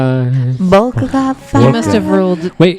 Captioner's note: sing-song